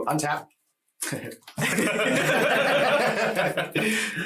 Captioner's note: everyone laughing